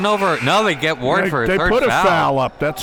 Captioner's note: buzzer blares